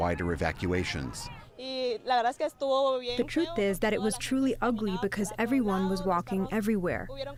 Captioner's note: through translator